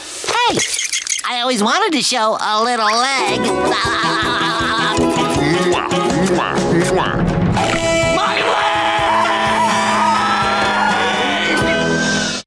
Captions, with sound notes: Hey, I always wanted to show a little leg. [laughing] [kissing] [popping] My leg!